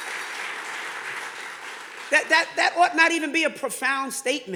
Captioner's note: audience clapping